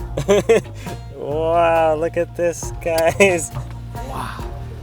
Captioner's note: laughing